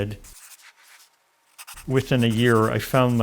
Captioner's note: pencil scratching